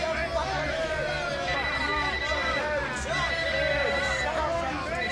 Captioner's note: phone ringing